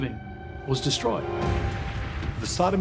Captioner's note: crackling flames